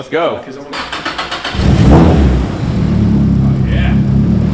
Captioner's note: engine revving